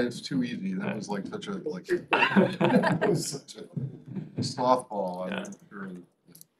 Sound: laughter

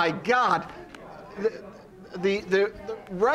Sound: audience talking

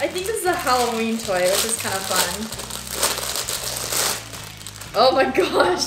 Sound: wrapper rustling; laughing

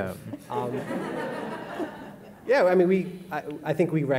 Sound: audience laughing

